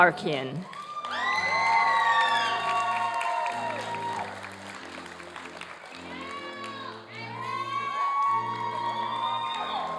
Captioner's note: applause and cheering